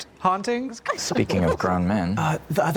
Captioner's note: The Trousers laugh